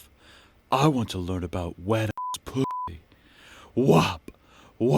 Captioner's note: beep